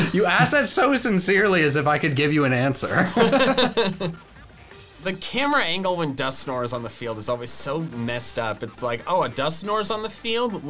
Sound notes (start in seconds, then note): 2.9 laughing